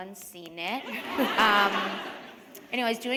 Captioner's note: laughter